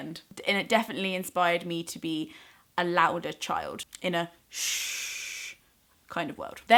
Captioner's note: shhhh